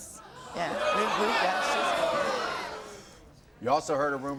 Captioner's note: audience groans